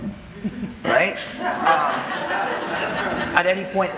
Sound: audience laughing

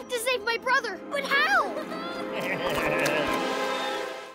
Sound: chuckles

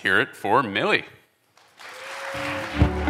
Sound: cheers, applause

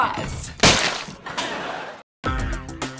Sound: laughing

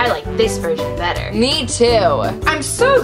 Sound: voiceover

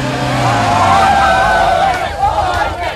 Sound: crowd; tires screeching

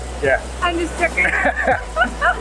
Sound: laughs

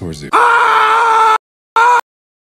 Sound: George Carlin scream

